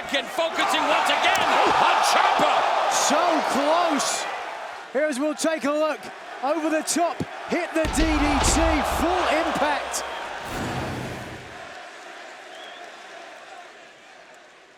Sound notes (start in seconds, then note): 10.1 air whooshing; 11.9 crowd chanting